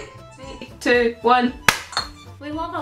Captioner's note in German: klapp